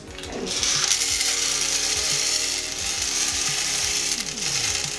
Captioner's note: kernels clattering